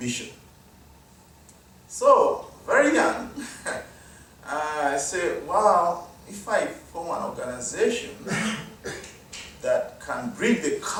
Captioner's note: audience member coughs